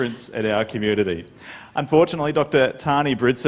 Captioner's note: laughter